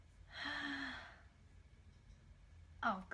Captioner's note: sighs